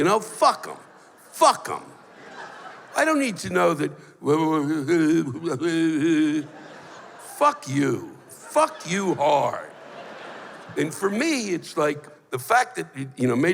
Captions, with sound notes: Fuck 'em! Fuck 'em! I don't need to know [speaks gibberish] Fuck you! Fuck you, hard! And for me, it's like, the fact that, you know,